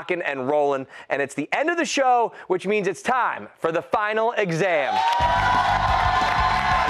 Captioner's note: cheers